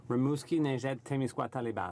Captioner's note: speaking French